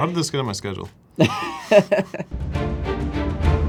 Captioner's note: both laugh; adventurous music